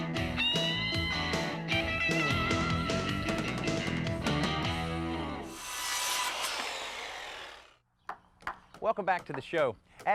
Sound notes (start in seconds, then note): 8.4 hammer banging